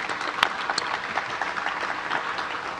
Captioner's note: applause